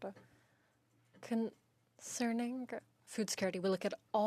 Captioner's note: speaking in French